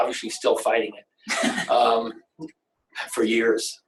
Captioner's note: laughs